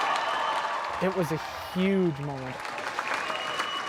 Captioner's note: cheers and Applause